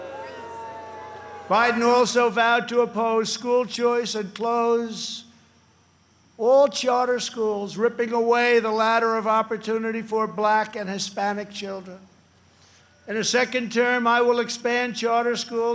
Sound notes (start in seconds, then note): 2.8 booing